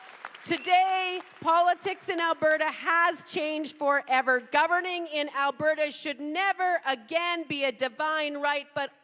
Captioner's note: cheers and applause